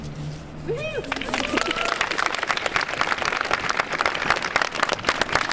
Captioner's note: audience applauds